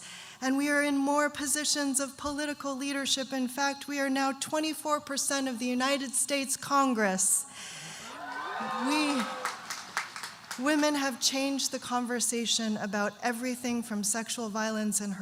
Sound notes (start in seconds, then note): 8.0 audience cheering and applauding